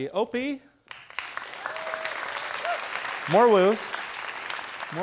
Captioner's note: students applauding